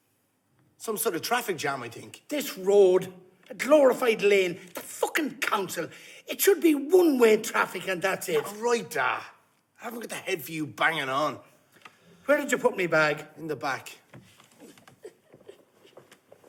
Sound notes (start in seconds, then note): none